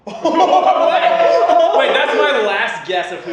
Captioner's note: laughter